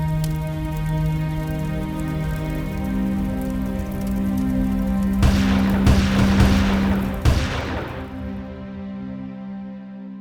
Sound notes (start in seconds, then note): 5.2 guns fire